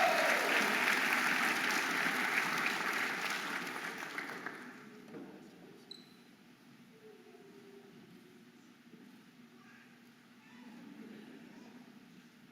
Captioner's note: audience applauding and cheering